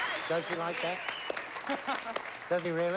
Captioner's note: both laugh